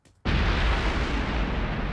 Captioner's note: explosion